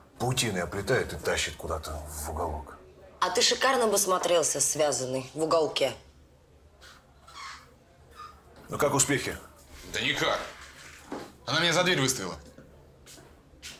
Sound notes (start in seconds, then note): none